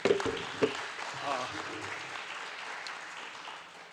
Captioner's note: audience applauds